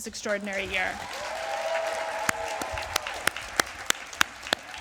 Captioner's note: applause